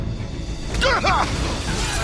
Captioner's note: shouts